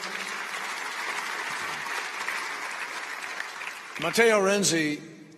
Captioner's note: applause